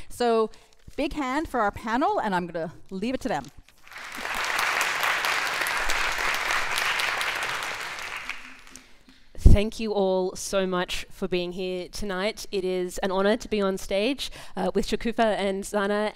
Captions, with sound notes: So big hand for our panel and I'm gonna leave it to them. (audience applauds) - Thank you all so much for being here tonight. It is an honour to be on stage with Shokoofeh and Zana